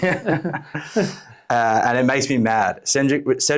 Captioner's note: both chuckle